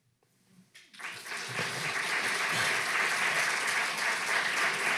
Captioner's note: audience clapping